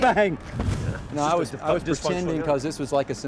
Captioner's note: whooshing